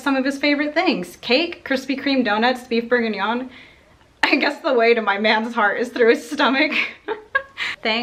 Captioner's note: giggles